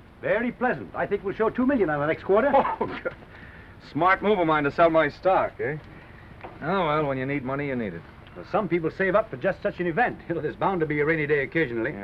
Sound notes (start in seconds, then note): 2.3 Norman laughs